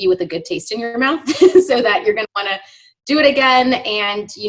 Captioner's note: laughs